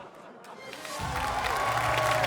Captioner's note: cheering